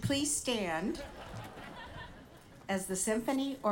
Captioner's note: audience laughing